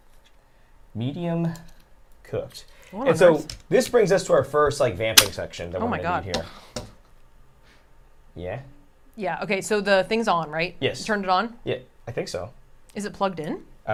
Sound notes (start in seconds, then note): none